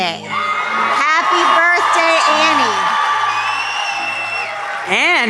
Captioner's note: crowd cheering